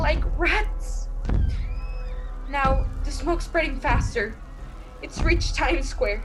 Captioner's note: giant footsteps grow close